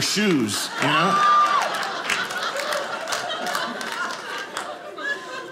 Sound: audience laughing

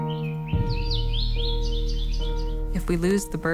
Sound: birds singing

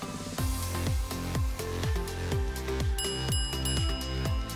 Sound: bells dinging

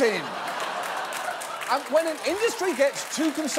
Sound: audience laughing

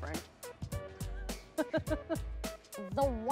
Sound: laughs

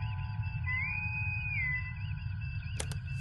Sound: bosun whistle

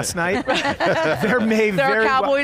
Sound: panelists laughing

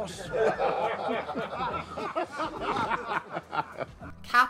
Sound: laughter

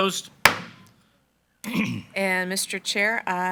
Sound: gavel bangs

